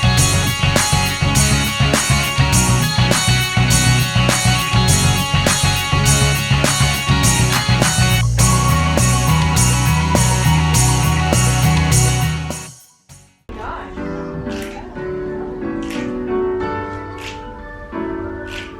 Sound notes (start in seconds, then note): 11.0 upbeat Music; 12.4 finger clicks; 13.8 singing